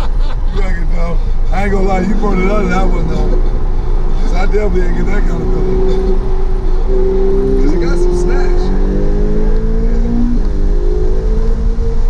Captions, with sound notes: (laughing) - I ain't gonna lie, you brought it louder, than I would though. Because I definitely didn't get that confident bro. (engine roaring) It got some snatch.